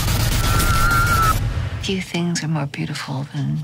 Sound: screams

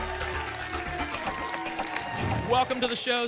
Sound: applause and cheering

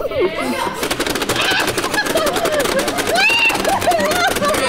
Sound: game clicks; giggling and screaming

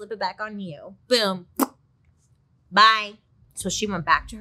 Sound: smacks lips

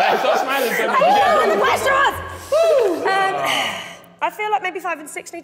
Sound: Sidemen laughing

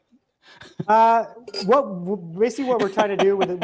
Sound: laughing

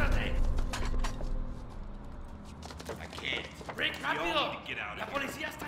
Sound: speaking in Spanish

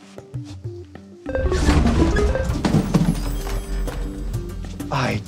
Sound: positive chime

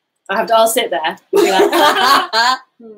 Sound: laughing

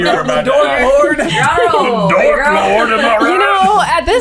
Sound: laughter

